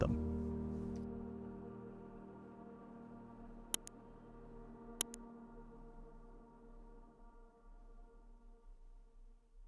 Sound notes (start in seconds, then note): 0.0 uplifting music; 3.7 graphic clicking